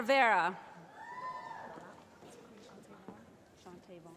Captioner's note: cheering